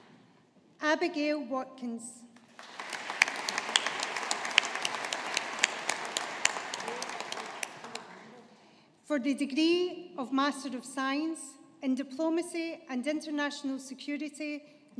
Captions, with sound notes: Abigail Watkins. (AUDIENCE APPLAUDING) For the degree of Master of Science in Diplomacy and International Security,